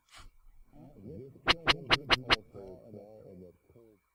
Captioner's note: chattering sound